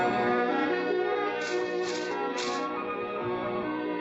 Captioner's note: curtains rustling